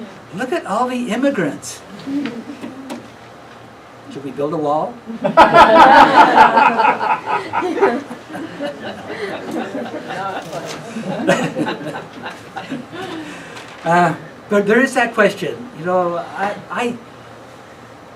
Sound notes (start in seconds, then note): 5.2 laughing